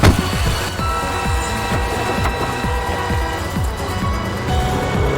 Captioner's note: engine rumbling; horn honking